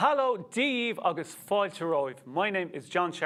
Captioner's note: speaks Irish